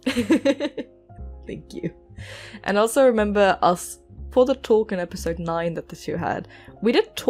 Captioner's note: laughs